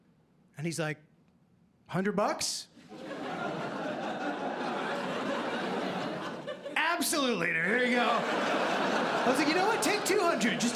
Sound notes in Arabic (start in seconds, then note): 3.0 ضحك